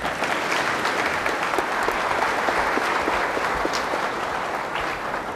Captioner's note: applause